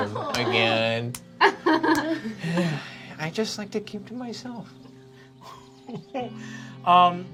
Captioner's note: sighs